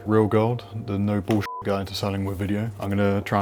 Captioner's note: beep